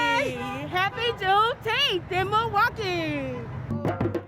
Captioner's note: cars honking; upbeat drums